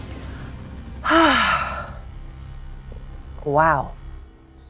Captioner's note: sighs